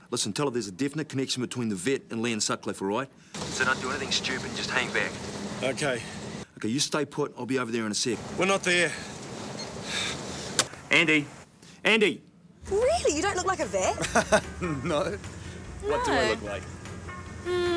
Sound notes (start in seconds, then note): 9.5 phone beeps; 10.5 Andy panting; 13.8 chuckles